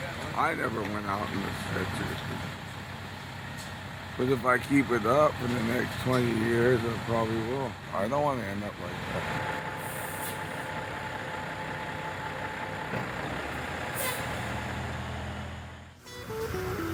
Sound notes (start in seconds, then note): 9.4 ambulance Departing; 16.0 guitar Interlude